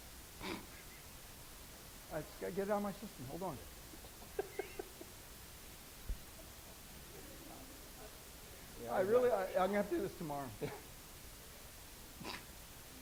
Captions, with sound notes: - (laughs) I just got to get it out of my system. Hold on (both laughs). Really, I'm going to have to do this tomorrow.